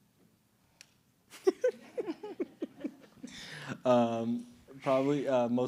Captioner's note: laughing